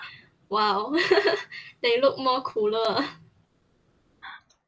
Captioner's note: laughing